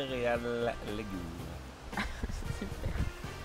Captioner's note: laughing